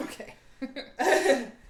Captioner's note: laughing